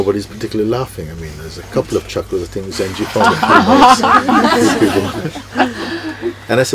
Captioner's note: laughter